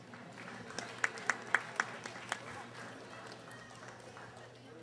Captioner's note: audience applauding